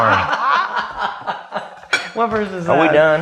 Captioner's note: laughs